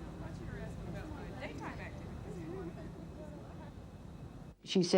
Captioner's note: ladies chattering